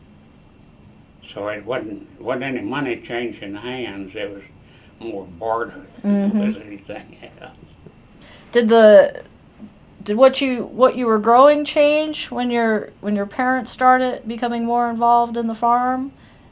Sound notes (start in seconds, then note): 6.1 laughs